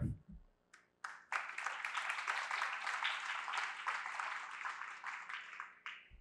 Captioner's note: applause